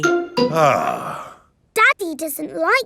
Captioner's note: sighs